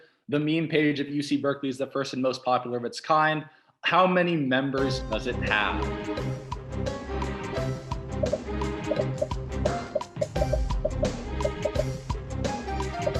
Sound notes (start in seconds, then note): 7.9 dramatic music; 8.3 popping